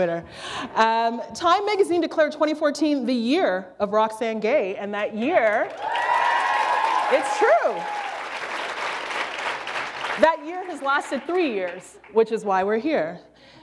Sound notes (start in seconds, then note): 9.0 applause